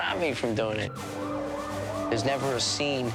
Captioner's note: sirens wailing